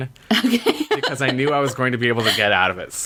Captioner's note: laughs